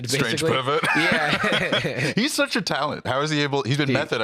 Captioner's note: laughs